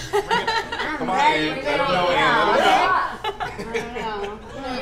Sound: group chattering; group chuckling

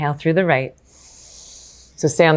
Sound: inhales softly

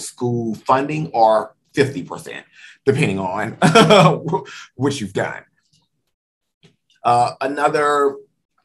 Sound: laughs

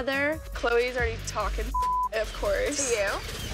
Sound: beep

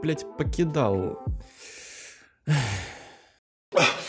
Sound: deep breath

